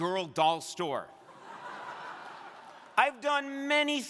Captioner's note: crowd laughing